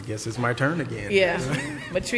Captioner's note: laughter